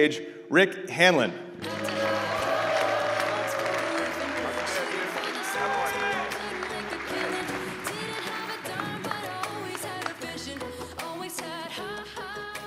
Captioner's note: applause